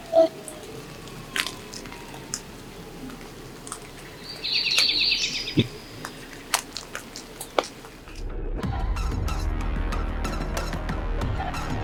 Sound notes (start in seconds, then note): 4.4 birds chirping; 8.2 tense upbeat music